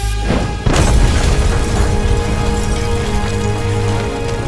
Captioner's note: explosion booms